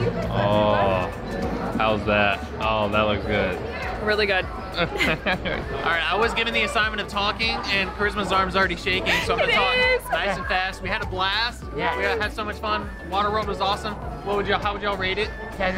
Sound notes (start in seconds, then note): 4.8 laughs; 9.0 laughs